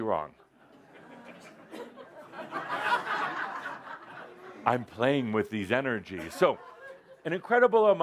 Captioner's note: laughter as Adamus teases the audience